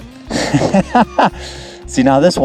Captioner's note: laughing